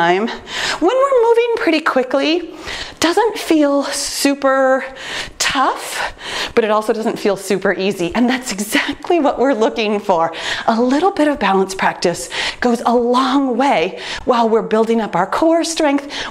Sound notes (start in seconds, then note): none